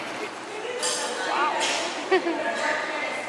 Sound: laughter

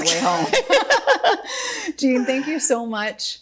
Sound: both laughing

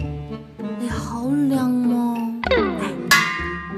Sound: speaking Cantonese

